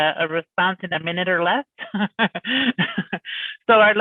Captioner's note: laughs